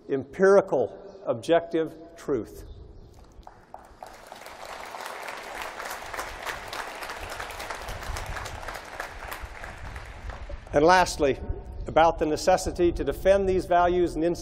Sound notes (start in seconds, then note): 3.4 applause